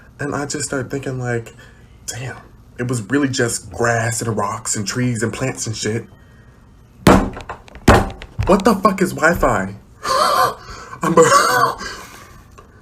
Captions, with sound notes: and i just start thinking, like damn. it was really just grass and rocks and trees and plants and shit what the fuck is wifi‽ *wheeze* i'm- *wheeze*